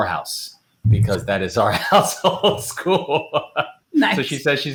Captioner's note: chuckles